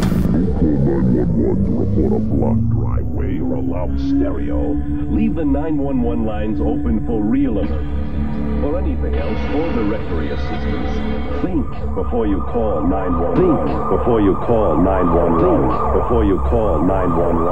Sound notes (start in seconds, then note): 11.3 police sirens blaring